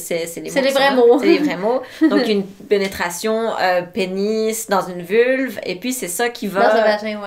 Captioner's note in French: rires